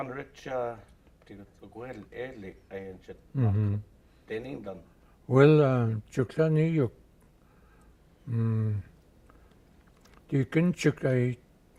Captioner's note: speaking Gwich'in